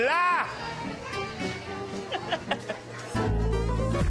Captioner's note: laughs